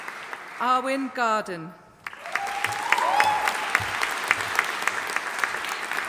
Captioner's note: audience applauding